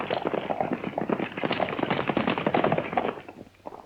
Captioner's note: horses galloping